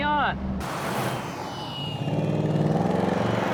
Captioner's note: engine revving